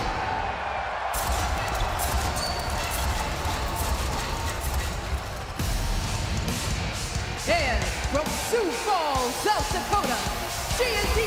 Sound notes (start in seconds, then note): 2.1 crowd cheering